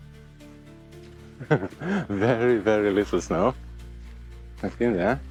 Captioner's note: chuckles